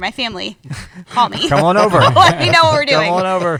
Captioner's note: laughter